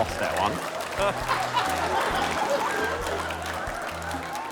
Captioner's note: laughter